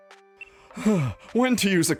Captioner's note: sighs